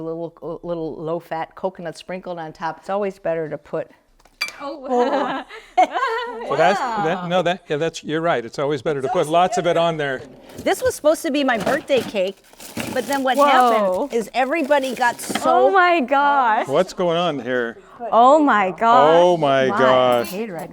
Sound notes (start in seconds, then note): 4.6 laugh